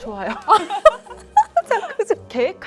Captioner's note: laugh